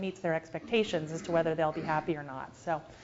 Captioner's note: cough